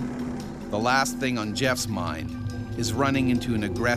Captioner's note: voiceover